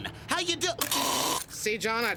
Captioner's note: gagging